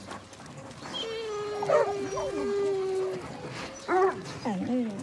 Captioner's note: whimpering